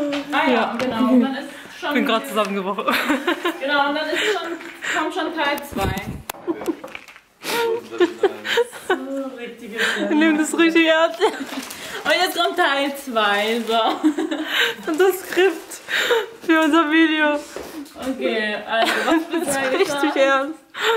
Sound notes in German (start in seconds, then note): 7.5 lacht; 15.6 lachen